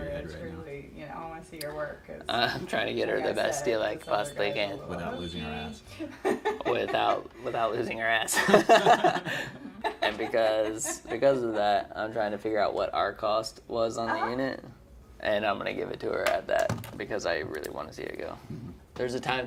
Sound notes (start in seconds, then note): 8.4 laughing